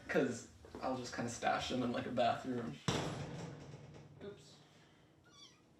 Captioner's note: banging; kitten meows